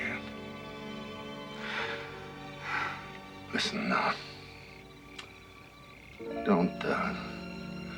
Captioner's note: sighing